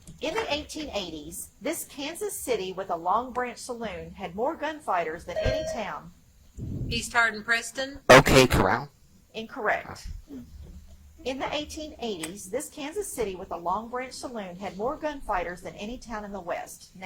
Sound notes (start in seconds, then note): 5.3 buzzer chimes